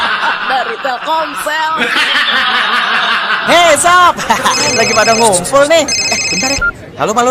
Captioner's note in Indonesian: tertawa